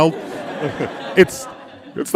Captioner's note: audience laughing